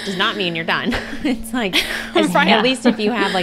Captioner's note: they laugh